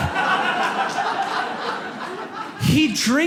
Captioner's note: audience laughs